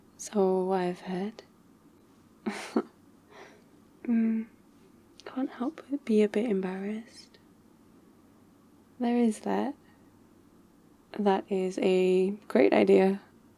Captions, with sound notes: so... I've heard *embarrassed laugh* hmm *quietly* I can't help but be a bit embarrassed... there is that that is a great idea